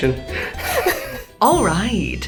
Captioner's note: both laugh